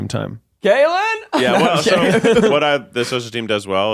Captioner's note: laughing